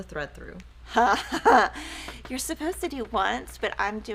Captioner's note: laughs